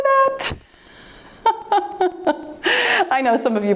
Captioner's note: laughs